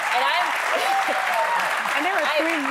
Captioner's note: laughter; applause